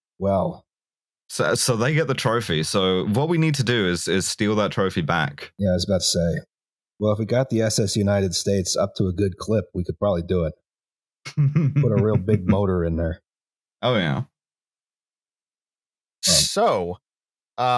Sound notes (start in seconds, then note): 11.2 chuckles